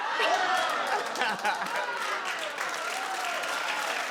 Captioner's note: crowd claps